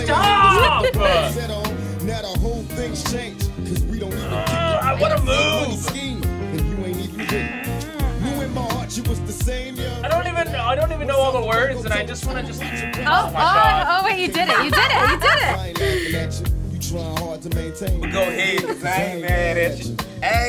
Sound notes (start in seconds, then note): 0.0 laughs; 4.1 grunts; 7.2 buzzer buzzing; 12.4 buzzer buzzing; 16.2 laughs